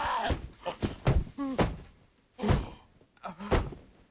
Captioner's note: Curly cries out in pain; thudding; harsh thudding